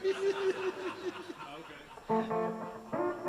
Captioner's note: laughs; guitar playing